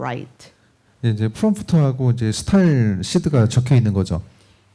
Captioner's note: speaking korean